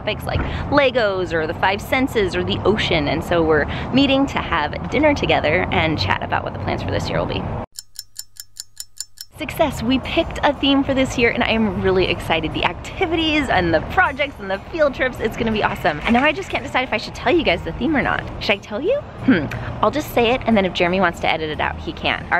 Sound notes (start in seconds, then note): 7.7 clock ticking